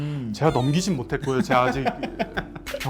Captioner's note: laughs sadly